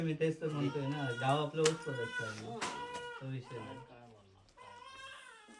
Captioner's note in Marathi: रडणे